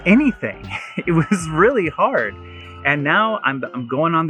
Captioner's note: laughing